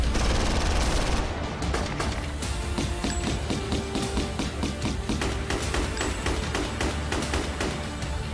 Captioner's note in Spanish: Disparos